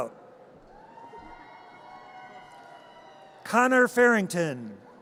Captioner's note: audience cheers